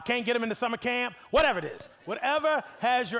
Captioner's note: audience laughing